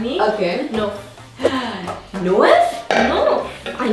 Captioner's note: gasps